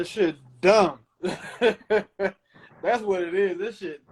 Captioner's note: laughing